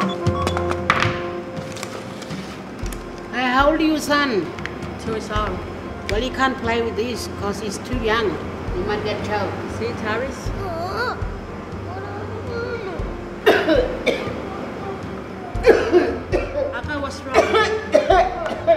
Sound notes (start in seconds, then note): 13.2 coughs